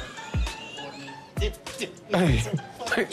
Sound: laughter

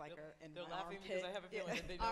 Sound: laughs

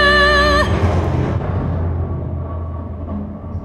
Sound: thunder rumbling

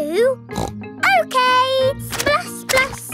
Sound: snorts

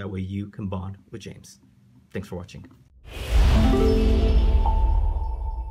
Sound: sound effect plays

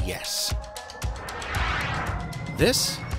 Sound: whooshing sound

